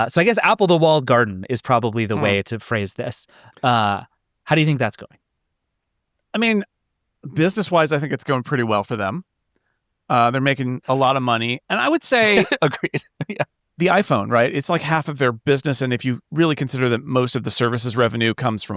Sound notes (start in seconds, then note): 12.1 chuckling